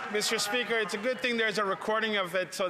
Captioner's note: some Applause